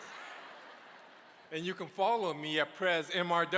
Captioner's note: applause